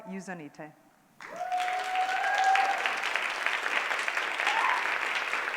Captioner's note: applause